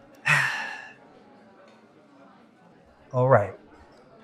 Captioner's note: Chief Bernard sighs